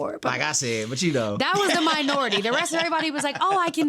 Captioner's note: laughing